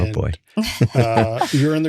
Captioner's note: laughing